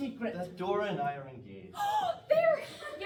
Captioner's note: gasp